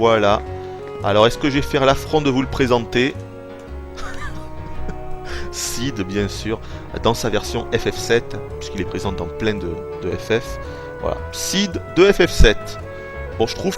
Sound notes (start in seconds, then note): 3.9 giggles